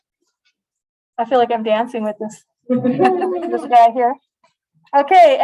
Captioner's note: laughter